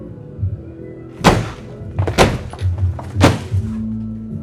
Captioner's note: thudding